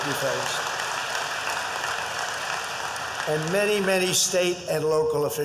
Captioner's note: applause